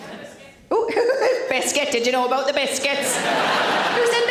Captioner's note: audience laughs; laughs